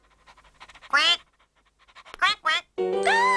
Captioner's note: quacks